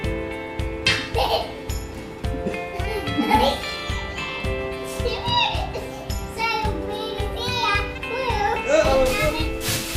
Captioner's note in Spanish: riendo